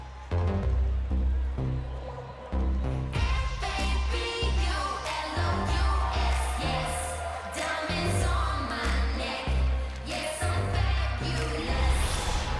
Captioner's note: crowd cheering